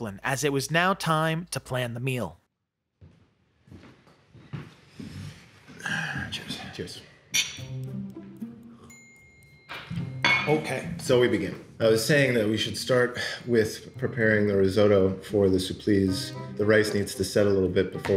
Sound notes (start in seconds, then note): 5.6 sighing; 7.4 mysterious music